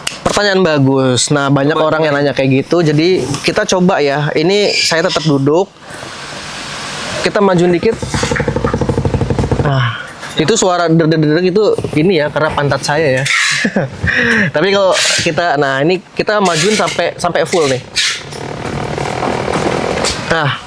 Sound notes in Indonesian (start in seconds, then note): 13.4 tertawa